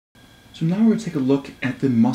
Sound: voiceover

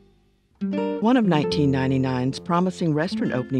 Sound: voiceover

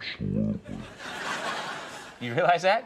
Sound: audience laughs

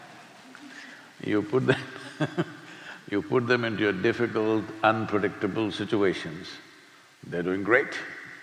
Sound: laughter; laughs

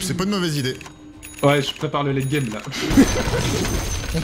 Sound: laughs

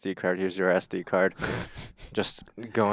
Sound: chuckling

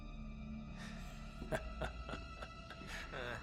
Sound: laughs

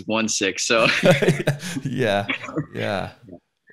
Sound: laughs

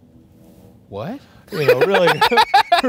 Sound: laughing

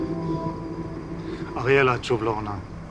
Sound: none

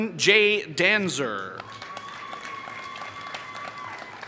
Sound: applause

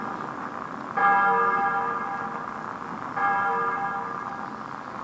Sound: ringing continues

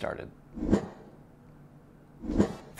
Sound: air whooshing

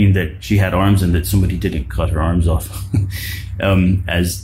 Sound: chuckles

